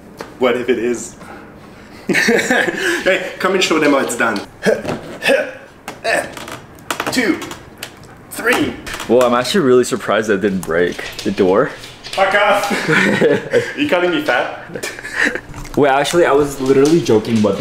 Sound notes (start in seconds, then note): 2.0 laughing; 4.6 grunting